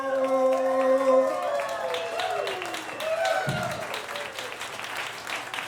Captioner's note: crowd clapping and cheering